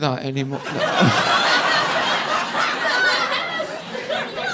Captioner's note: audience laughing